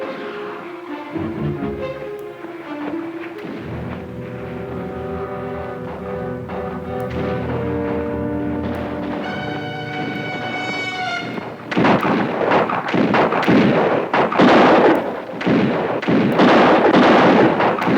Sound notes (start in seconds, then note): 0.2 distant guns fire; 0.2 suspenseful music; 11.8 guns fire